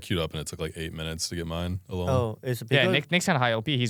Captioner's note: laughs